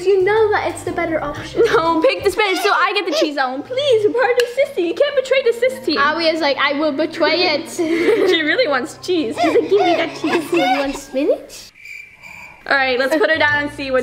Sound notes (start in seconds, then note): 7.4 laugh; 9.4 baby gasps; 11.6 crickets chirping